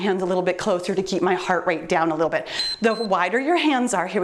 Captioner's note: timer beeps